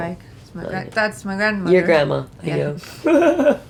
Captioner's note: laugh